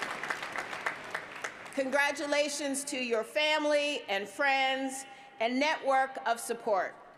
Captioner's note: applause